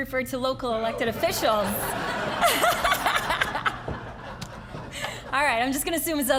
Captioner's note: all laughing